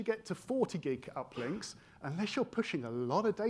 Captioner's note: attendee coughing